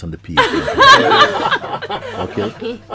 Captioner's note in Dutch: Gelach